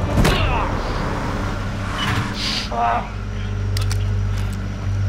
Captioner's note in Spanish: Ruido del vehículo